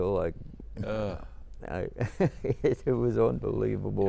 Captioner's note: chuckling